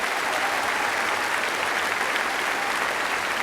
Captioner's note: applause